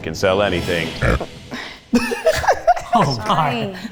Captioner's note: burps